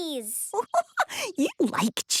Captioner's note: giggling